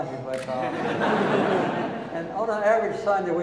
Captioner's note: audience laughing